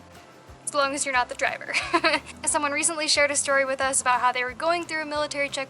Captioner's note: laughter